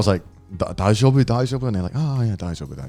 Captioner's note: speaks in foreign language